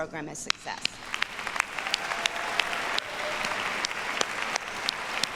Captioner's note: audience applauds